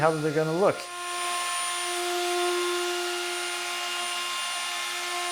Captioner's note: machine whirring